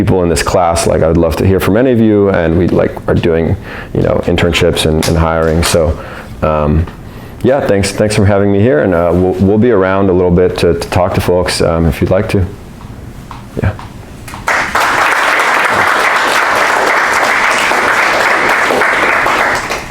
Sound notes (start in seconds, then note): 14.3 audience applauds